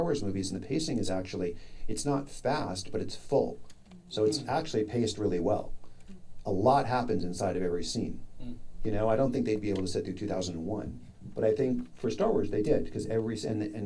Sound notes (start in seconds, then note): none